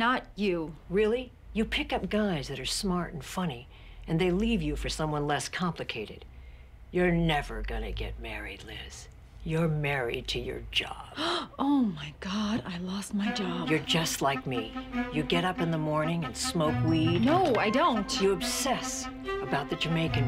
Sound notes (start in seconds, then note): 10.0 gasps